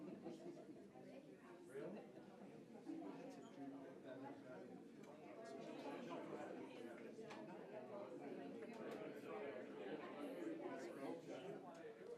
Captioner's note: general chatter